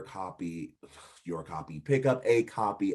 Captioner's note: exhaling